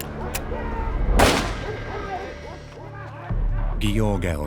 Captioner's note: gun fires; gun clicks